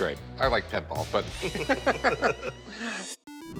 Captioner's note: both laugh